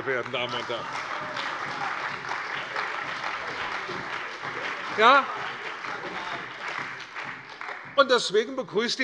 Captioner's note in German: Beifall bei der CDU und dem BÜNDNIS 90/DIE GRÜNEN